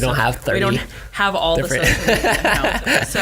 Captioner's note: laughs